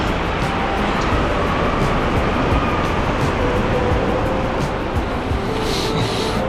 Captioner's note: wind Blowing